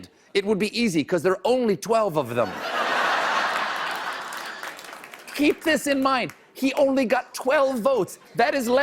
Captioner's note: laughter